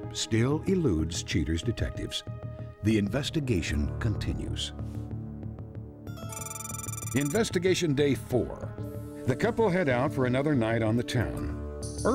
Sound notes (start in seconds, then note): none